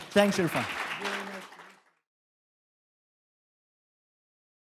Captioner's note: audience applauding